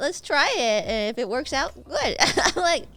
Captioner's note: laughs